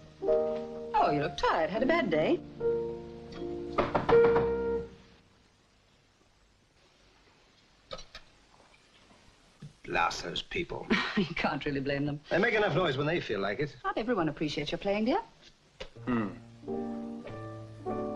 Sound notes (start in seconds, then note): 0.0 gentle piano music; 3.7 banging on wall; 11.1 chuckles